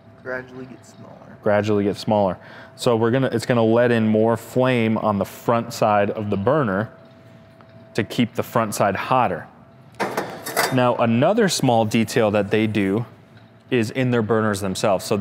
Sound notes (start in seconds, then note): 10.0 metals clanking